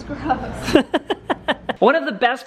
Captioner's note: laughs